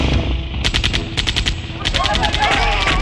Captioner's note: hand Machine Gun Firing; groaning